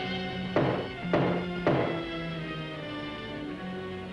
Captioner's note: dramatic ominous music; heavy knocking on door; dramatic ominous music